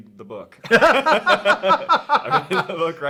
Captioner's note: both laughing